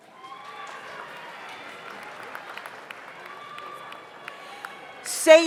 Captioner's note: audience applauds; audience cheers